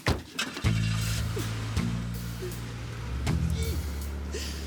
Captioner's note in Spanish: Enciende el motor del coche